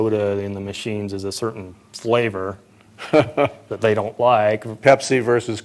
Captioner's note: laughter